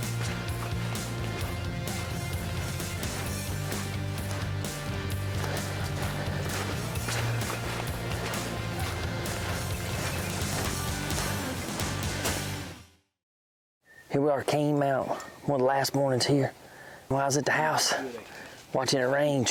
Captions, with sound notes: (leaves crunching) Here we are at Canemount, one of the last mornings here. When I was at the house, watching it rain,